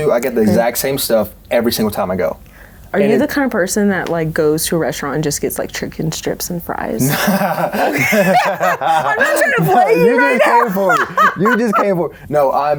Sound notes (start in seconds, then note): 7.0 both laughs